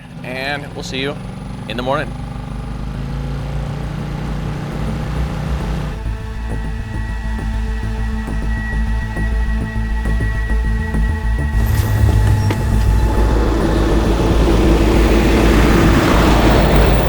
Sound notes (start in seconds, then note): 5.3 intense music; 13.4 truck rumbles